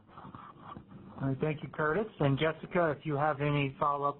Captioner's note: voiceover